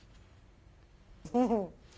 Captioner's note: laughs